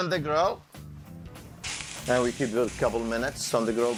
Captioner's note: grill sizzling